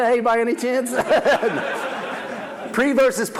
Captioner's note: audience laughs